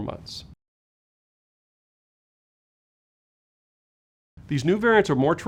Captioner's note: no audio